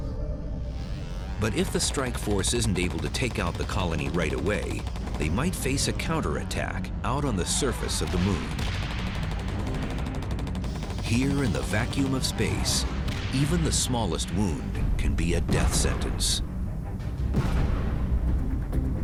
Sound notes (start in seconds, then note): 7.8 fire attack sound; 17.3 explosion